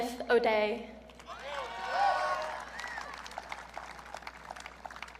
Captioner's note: audience cheering